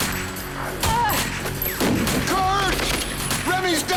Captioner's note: guns firing; Remi cries out